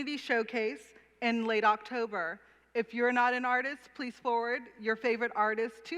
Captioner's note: none